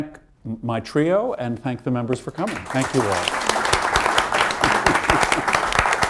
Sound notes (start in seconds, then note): 2.4 applause